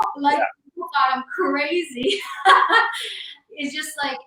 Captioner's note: laughs